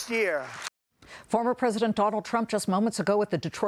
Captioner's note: applause